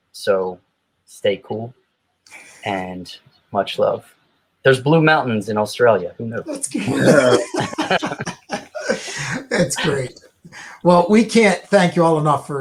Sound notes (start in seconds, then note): 6.4 panel laughs